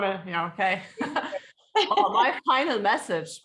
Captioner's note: laughing